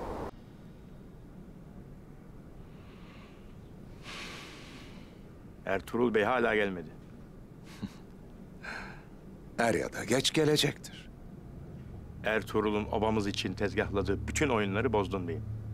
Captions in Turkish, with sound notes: Ertuğrul Bey hâlâ gelmedi. (Gülme sesi) Er ya da geç gelecektir. Ertuğrul'un obamız için tezgâhladığı bütün oyunları bozdun beyim.